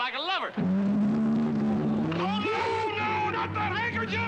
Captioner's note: bellows ferociously